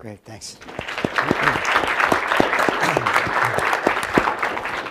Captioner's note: applause